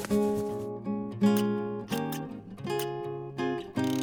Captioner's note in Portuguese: Estalos metálicos de tesoura